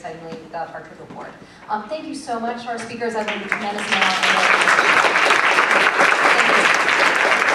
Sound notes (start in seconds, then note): 3.2 applause